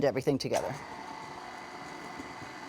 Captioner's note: whirring